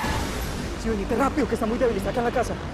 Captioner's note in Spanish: Chirrido de llantas